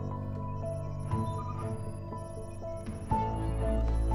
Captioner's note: beeping